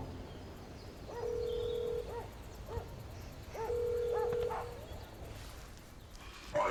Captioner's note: birds chirping; phone ringing